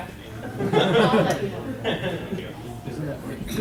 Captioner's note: laughter